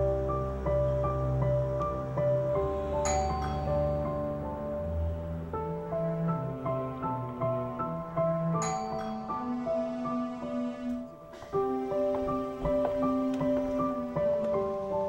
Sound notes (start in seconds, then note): 3.0 door bell rings; 8.6 door bell rings